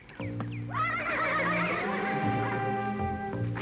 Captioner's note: horse neighing